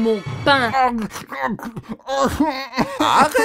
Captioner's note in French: gémissements